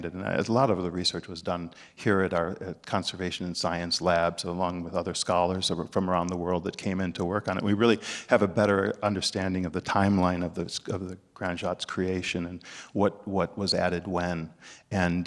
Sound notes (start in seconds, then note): none